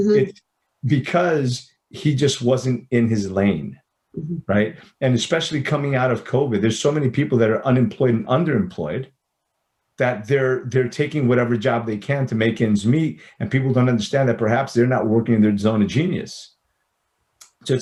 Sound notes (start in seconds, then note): none